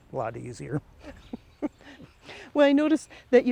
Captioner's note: chuckles